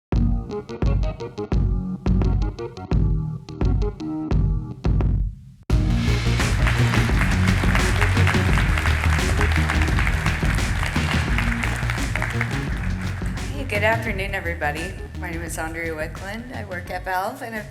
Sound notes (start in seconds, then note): 0.1 upbeat electronic music; 5.8 audience applauds